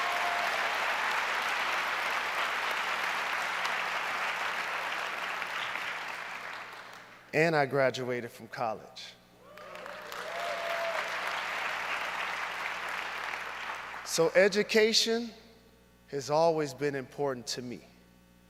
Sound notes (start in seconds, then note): 4.5 cheers and applause